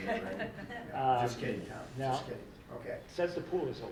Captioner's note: laughing